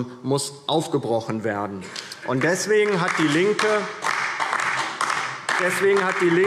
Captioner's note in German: Beifall DIE LINKE